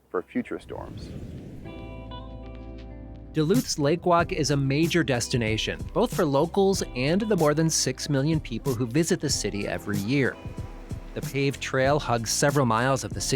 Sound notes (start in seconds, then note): 0.6 whooshing; 2.2 soft music